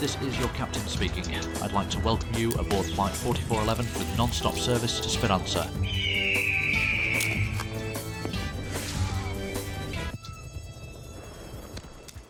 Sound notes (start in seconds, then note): 5.7 eagle screech